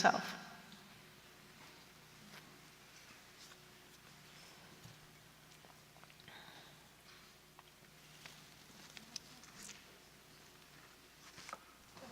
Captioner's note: silence